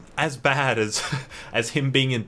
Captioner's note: laughing